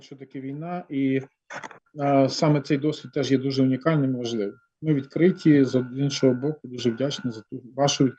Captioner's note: non-english speech